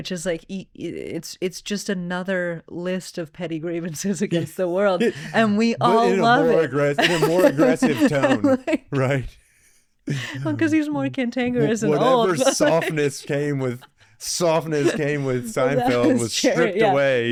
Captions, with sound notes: Which is like, it's just another list of petty grievances against the world. And we all love it. But in a more aggressive tone, right? (both laughing) Well, because he's more cantankerous and all of us. Whatever softness came with Seinfeld was stripped away.